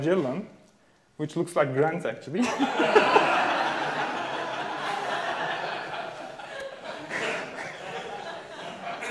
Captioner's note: audience laughing